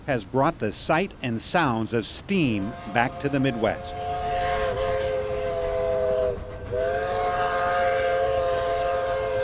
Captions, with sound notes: has brought the sight and sounds of steam (train whistle blaring) back to the Midwest. (train chugging)